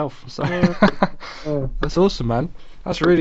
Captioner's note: laughs